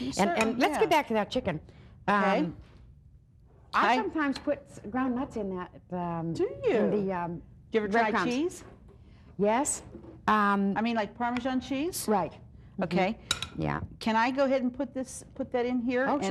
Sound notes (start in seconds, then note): none